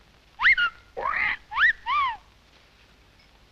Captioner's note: parrot whistling